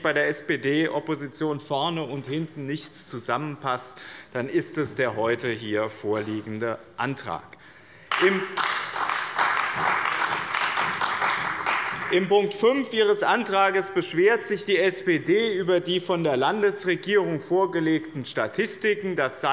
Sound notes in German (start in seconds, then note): 8.0 Beifall bei dem BÜNDNIS 90/DIE GRÜNEN und der CDU